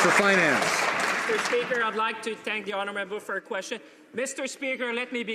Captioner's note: some Applause